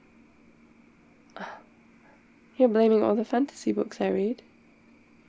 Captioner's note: gasps